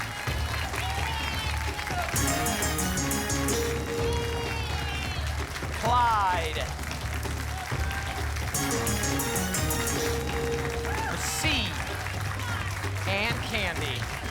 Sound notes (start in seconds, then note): 0.1 applause and cheering; 2.1 pinging sounds; 6.9 applause; 8.5 pinging sounds